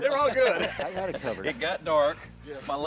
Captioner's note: laughing